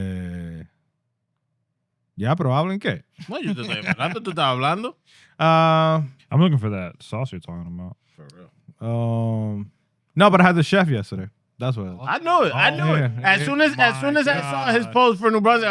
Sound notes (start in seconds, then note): 2.1 speaking In Foreign Language; 3.2 laughing